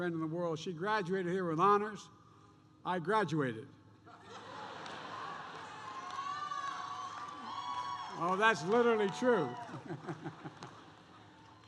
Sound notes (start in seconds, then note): 4.0 laughter; 9.6 laughs